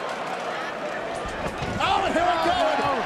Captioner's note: crowd chatter